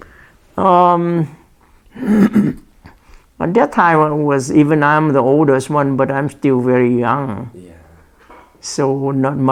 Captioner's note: clears throat